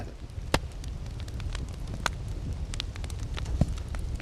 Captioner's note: fire crackling